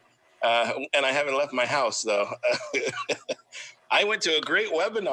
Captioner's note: laughs